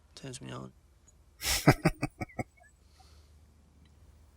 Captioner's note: chuckling